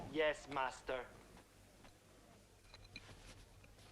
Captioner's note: none